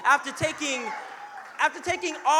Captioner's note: audience cheering